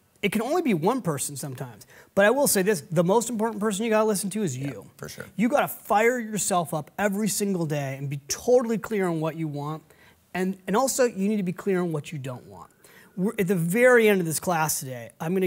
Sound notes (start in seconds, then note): none